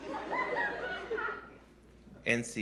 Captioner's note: laughter